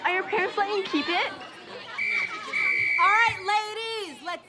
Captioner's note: whistle blowing